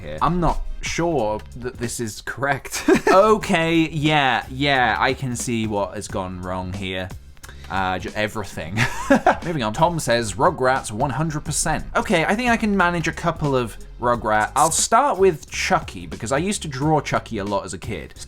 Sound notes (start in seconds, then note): 7.2 tuts; 7.4 breath; 8.8 laugh